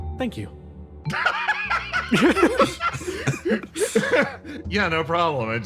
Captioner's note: laughs